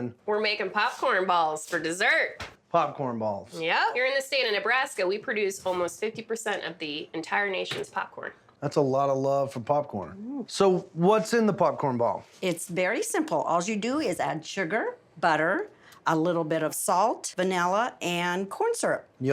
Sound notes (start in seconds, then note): none